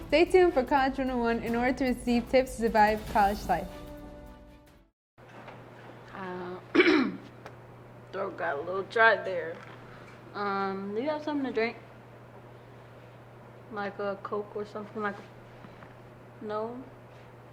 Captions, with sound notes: Stay tuned for College 101 in order to receive tips to survive college life. [Clears throat] Throat got a little dry there. Um, you got something to drink? Like a coke or something...? No?